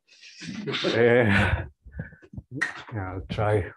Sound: laughs

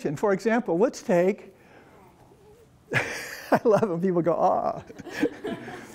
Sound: laughs

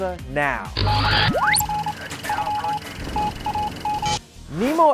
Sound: sound Effects

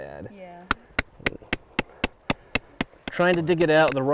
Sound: hammering

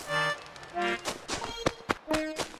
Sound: footsteps

